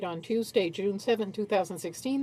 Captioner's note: speaking French